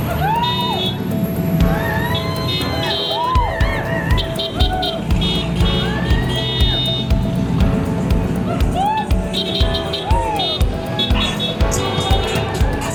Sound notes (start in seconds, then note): 2.2 crowd cheering; 5.2 horns honking; 9.3 horns honking